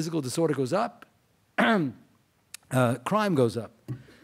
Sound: clears throat

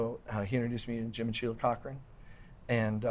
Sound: none

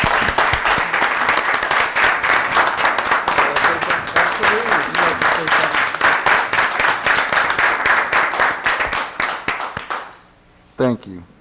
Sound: applause

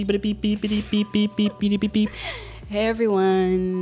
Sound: beeping

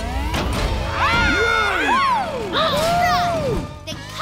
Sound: cheering

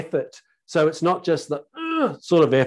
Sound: groaning

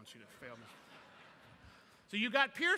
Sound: laughter

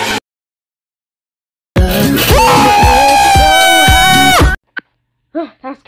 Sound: sarcasm; screaming

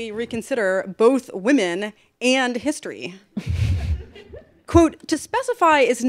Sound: laughter

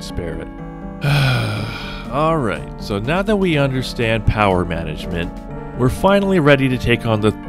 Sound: sigh

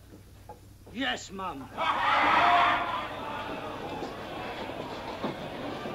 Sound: laughing

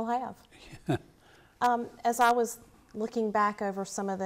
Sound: laughs

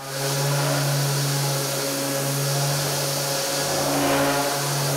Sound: sander whirring

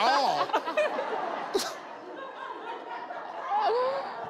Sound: crowd laughs

